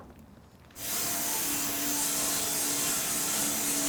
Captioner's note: saw whizzing